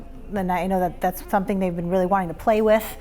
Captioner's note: none